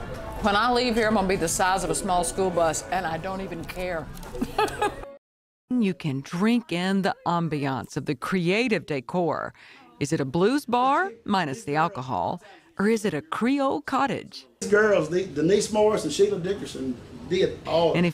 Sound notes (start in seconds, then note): 4.3 laughing